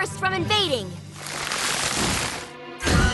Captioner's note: crackle